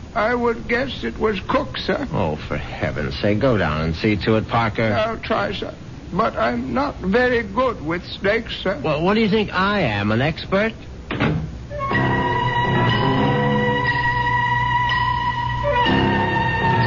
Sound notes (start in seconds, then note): 11.1 door opens